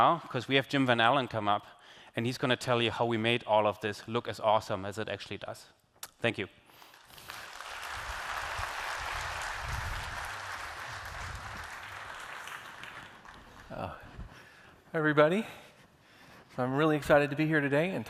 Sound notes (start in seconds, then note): 10.2 applause